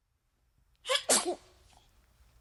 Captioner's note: comical sneeze